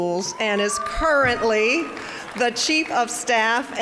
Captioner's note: audience cheering